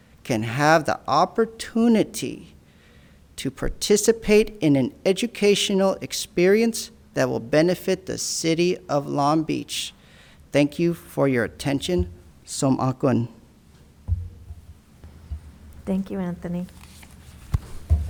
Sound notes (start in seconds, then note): 12.9 speaking in a foreign language